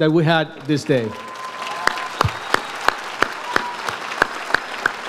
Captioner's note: audience applauds